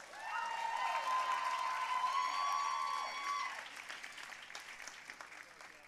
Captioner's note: audience cheering and applauding